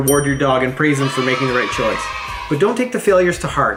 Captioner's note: kids cheering